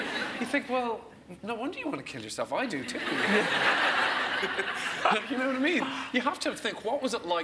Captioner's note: laughs